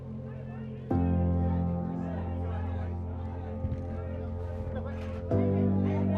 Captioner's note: reporters chattering; soft music